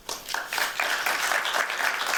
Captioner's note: applause